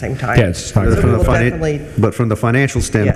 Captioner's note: overlapping group chatter